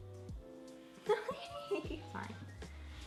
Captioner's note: soft electronic music; laughs